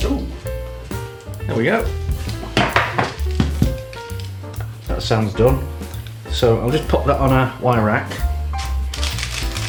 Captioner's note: tap tap